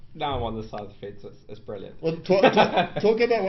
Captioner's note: laughs